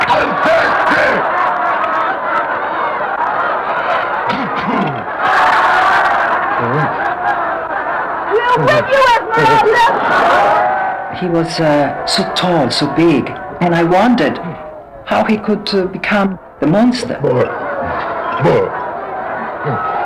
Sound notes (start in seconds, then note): 2.4 crowd shouting; 5.6 crowd cheering